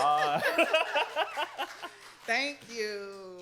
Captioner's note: laughs